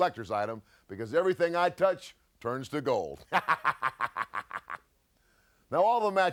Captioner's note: laughs